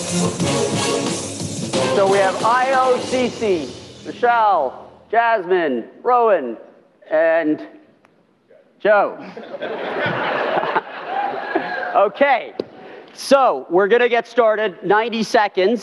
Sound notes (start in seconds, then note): 7.2 audience laughter